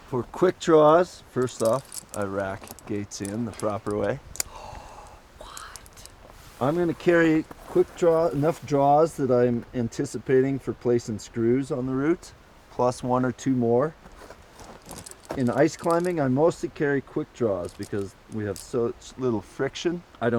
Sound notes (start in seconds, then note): 4.4 gasps